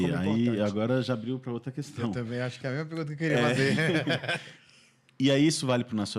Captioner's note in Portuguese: risadas